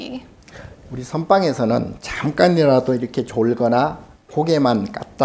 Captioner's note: speaking Korean